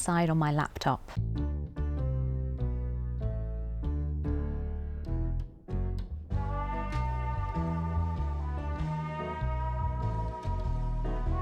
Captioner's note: water splashes